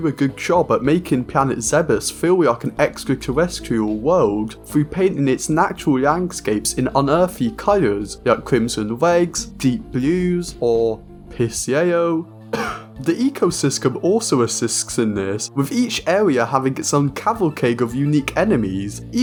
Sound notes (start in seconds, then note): 12.5 cough